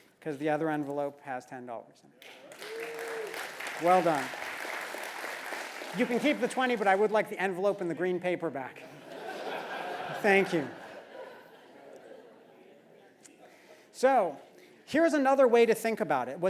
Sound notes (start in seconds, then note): 2.2 applause; 8.9 laugh